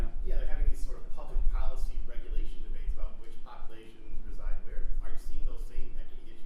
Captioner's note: voiceover